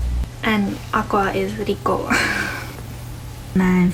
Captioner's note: laughs